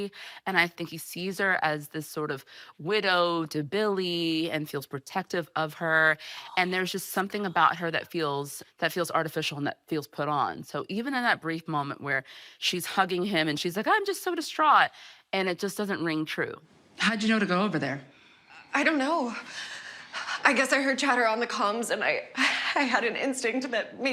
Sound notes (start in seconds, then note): 6.3 whispering